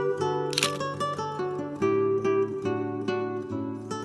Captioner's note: lighthearted guitar music; camera clicks